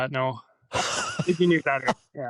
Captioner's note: laughter